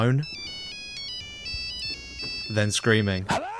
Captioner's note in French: sonnerie Nokia